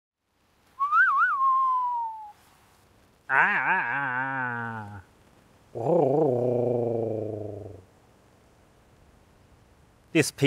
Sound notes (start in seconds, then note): 0.8 ugly flute imitation - oo-ee-oo-ee-ooooo; 3.3 uglier vocal imitation - aa-aa-aa-aa-aaaaa; 5.6 ugliest ocarina imitation - rr-oo-rr-oo-rrooo